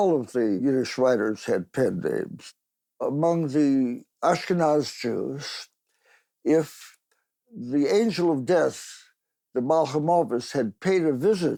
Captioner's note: in Yiddish